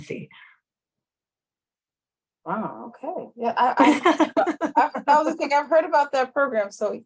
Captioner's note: laughter